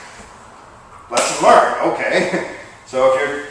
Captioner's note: chuckle